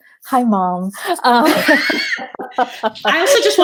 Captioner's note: laughing